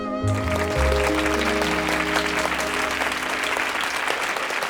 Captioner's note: audience applauding